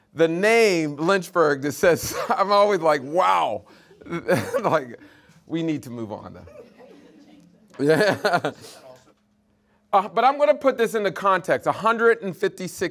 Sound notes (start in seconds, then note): 3.9 laughing; 6.6 audience laughing